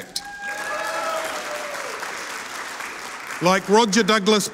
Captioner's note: audience cheering and applauding